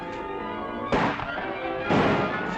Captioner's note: firing